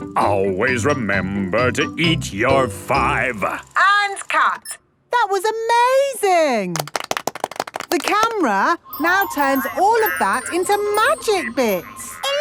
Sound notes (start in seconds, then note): 6.7 applause